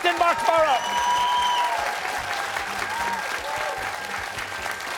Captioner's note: cheers and applause